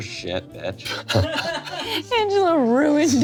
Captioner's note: everyone laughs